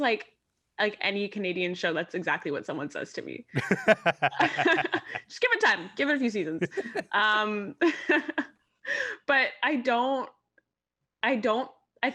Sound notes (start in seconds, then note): 3.5 laughing; 3.5 laughs; 6.4 laughing; 8.2 laughs